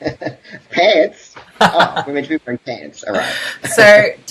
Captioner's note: laughs